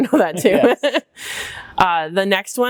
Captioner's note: laughs